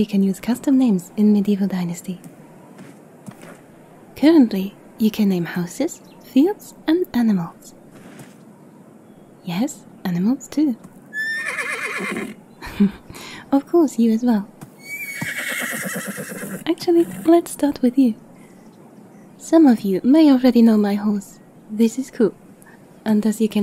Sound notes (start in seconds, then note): 11.1 horse neighs; 14.8 happy horse sound